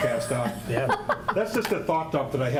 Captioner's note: laughing